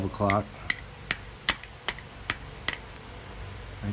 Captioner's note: tapping